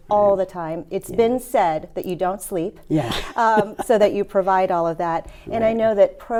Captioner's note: laughs